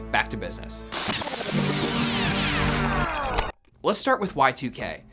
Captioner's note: bright music; distorted sound